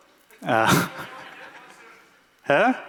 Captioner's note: laughter